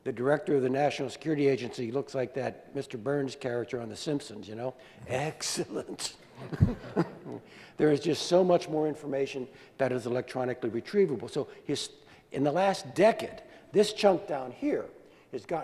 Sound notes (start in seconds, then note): 4.7 Mr. Burns Voice; 6.5 normal voice